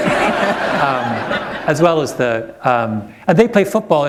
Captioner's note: laughter